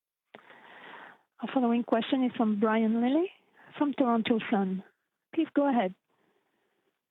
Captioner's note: speaking French